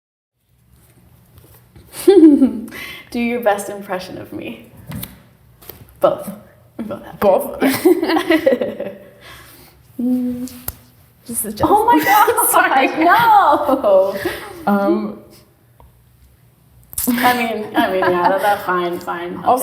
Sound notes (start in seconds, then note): 1.9 giggles; 8.0 laughing